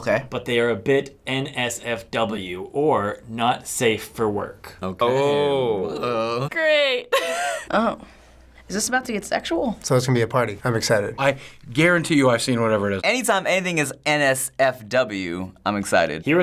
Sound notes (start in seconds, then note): 7.1 laughing